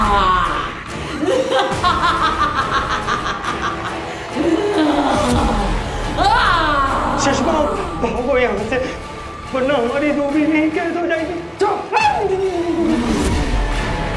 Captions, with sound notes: [evil laughter] Shashmaag, run! Or else our souls will be stuck here. Quiet! [dramatic music plays]